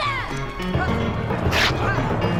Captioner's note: cloth tearing